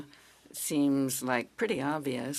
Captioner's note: speaking French